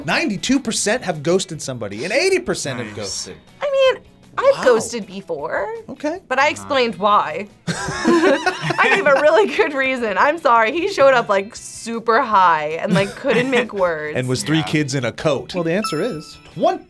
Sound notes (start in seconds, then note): 7.6 React laughs